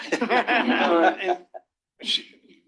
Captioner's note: laughter